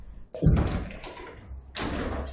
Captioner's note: thud